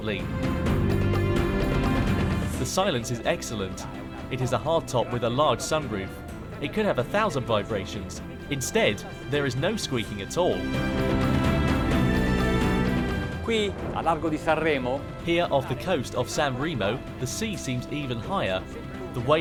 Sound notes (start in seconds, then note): 0.2 dramatic music; 10.6 dramatic music; 13.6 speaking foreign language